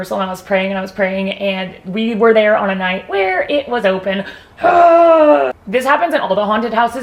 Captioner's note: grunts